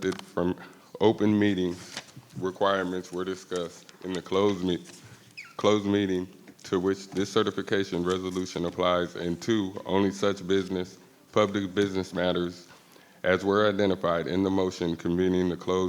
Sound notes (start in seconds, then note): none